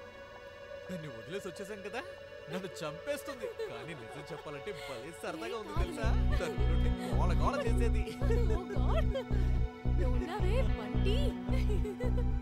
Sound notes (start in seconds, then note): 3.3 Tarini giggling; 9.9 laughter